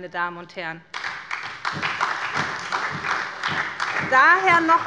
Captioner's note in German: Beifall bei der SPD